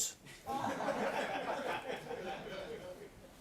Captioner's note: laughter